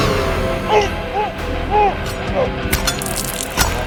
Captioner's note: Spencer moaning; dramatic music